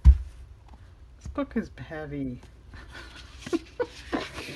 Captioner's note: laughs